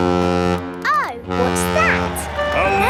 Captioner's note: horn bellowing